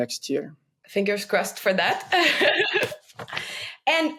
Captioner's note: laughs